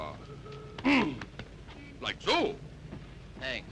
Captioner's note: grunts